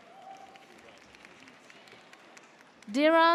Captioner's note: audience cheers